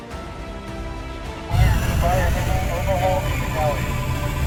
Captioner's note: jet engines and radio chatter